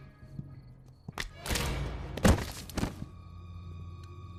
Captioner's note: neck cracking; dramatic music; tense suspenseful music